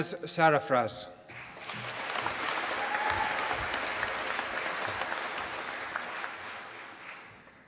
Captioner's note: applause